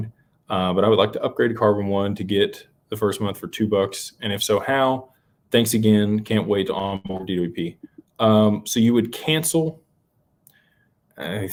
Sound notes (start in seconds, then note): none